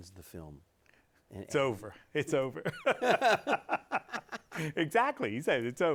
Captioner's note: both laughing